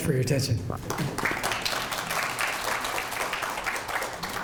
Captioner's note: audience applauds